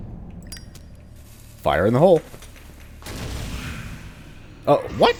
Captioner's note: Kaboom fail, Bugdogs snarling